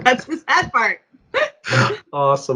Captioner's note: laughs